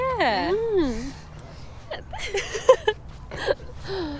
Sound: all laughing

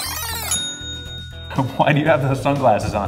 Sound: ding!

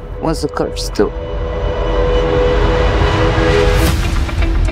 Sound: reverberation builds

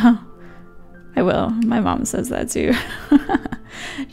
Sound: laughs

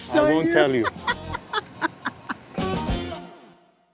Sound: laughs

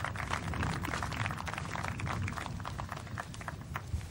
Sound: applause

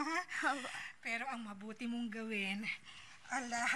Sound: chuckles

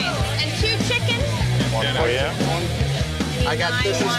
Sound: loud chatter

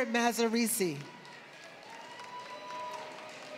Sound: applause

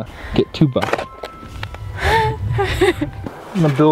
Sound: laughter

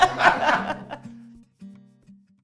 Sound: laughing

